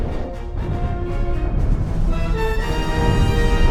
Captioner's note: muffled explosions